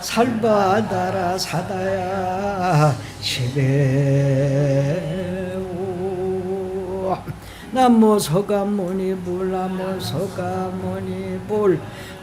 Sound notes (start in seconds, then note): 4.6 chanting